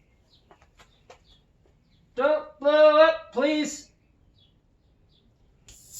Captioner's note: satisfying pop and hiss